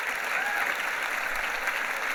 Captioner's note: clapping